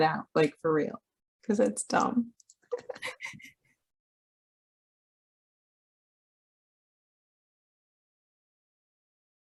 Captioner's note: laughter